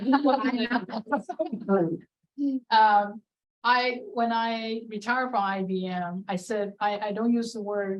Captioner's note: laughter